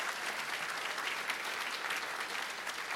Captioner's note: applause